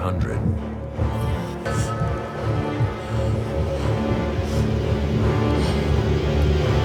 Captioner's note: suspenseful music; heartbeat thudding